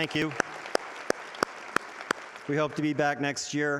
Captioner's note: audience applauding